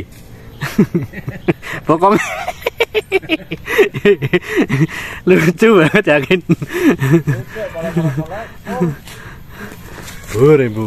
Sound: laughs

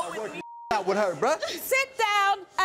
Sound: beep

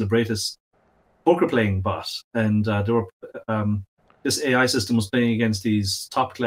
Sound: murmurs

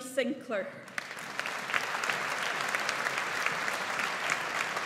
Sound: audience applauds

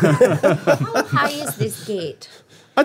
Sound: all chuckling

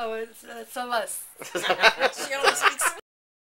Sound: laughter in the background

